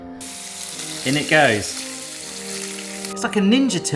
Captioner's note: sizzling sound